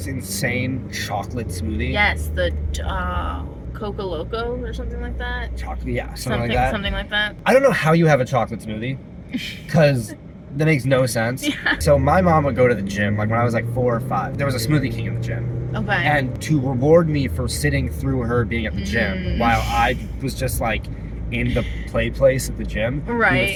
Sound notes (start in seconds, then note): 10.9 laughing